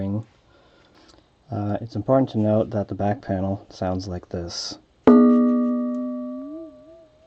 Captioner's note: bonnnnnnnnnng